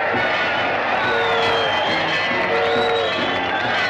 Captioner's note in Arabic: هتافات الجمهور; صافرات القطار; موسيقى مبهجة